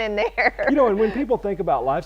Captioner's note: chuckle